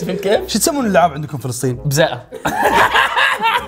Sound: in Palestinian dialect

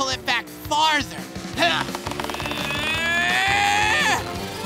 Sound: grunting

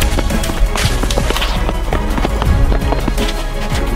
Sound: splashing

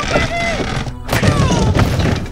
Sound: humming

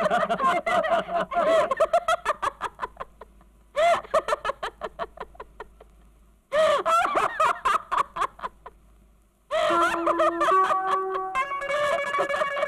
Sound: laughs

